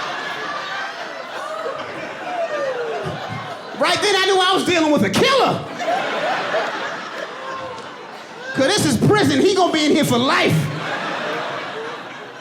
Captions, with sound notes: Right then I knew I was dealing with a killer. [AUDIENCE LAUGHING] 'Cause this is prison. He gonna be in here for life. Could've been run-off penis water, could've been piss,